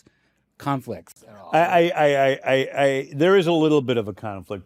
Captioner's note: stammers